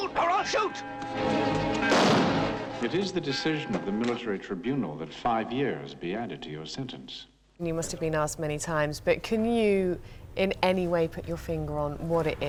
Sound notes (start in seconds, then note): 3.3 gunshot